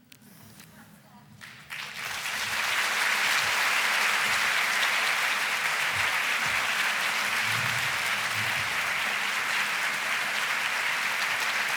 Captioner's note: applause